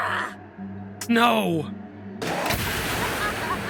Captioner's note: gun fires